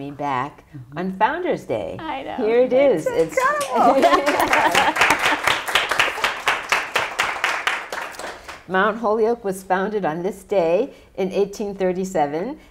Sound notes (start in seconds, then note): 3.2 applause